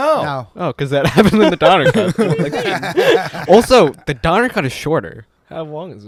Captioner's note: laughter